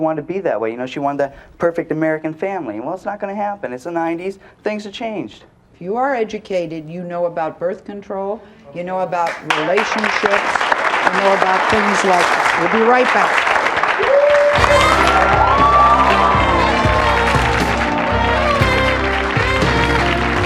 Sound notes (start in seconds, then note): 9.9 audience applauds; 13.9 audience cheering and applauding; 17.0 upbeat jazzy music